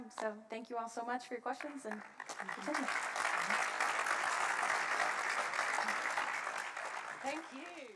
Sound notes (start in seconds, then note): 1.5 applause